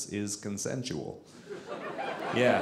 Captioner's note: audience laughing